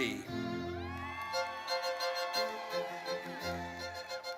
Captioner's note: audience cheers